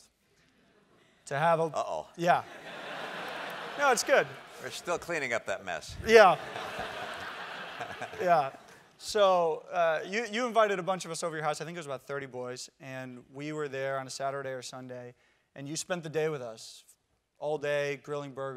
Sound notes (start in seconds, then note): 2.4 laugh